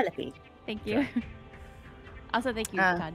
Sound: laughs

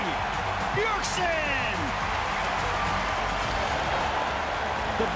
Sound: cheering

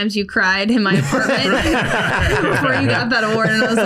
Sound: laughs

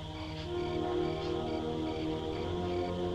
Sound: sniffing

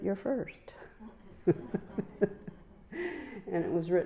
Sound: chuckling

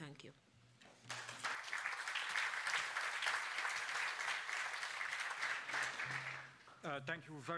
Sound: speaker Transition. Applause

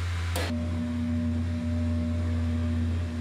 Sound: buzzing

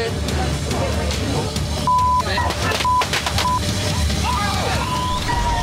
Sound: firecrackers popping

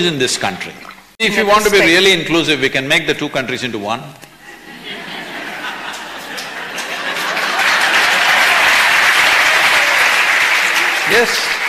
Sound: laughter/Applause

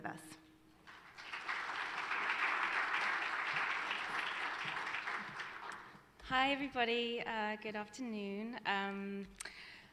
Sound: applause

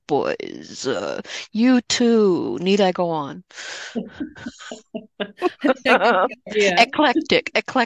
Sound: chuckles

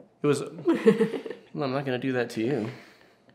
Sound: laughter

